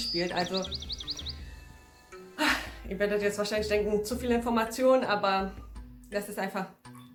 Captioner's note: sigh